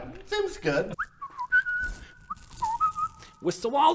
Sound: jolly whistling

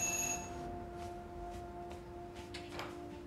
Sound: doorbell

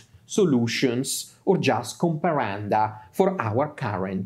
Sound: speaks in Latin

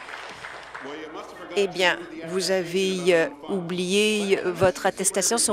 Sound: applause

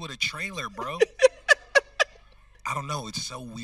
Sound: host laughing

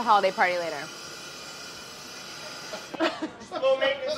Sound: metal grinding; laughing

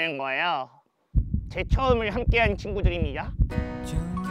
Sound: beating

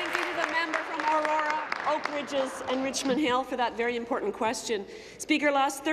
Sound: applause

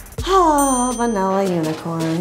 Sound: ding

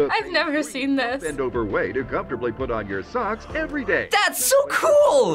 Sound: voice-over

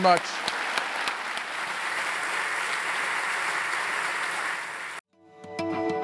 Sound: applause

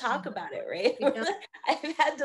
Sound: laughing

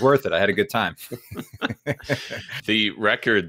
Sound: both laughs

